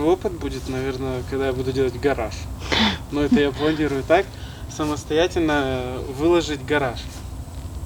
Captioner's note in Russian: фыркает